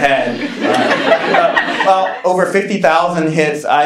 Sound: laughing

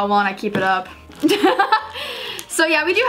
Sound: laughing

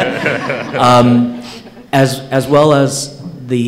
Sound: laughter

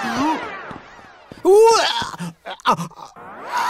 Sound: retching

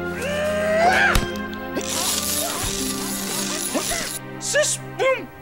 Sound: grunting

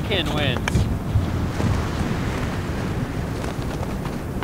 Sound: wind whistling

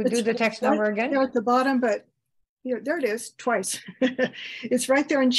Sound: chuckles

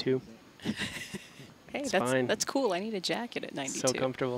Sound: laughs

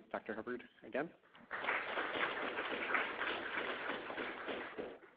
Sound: audience applauding

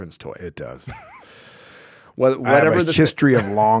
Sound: chuckling

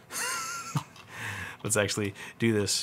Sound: laughs

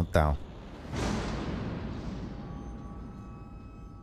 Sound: door banging

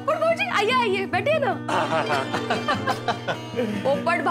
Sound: laughs

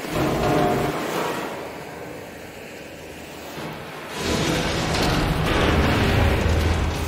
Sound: metal sounds, funnel collapses

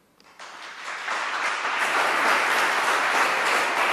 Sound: applause

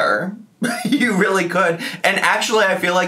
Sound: chuckles

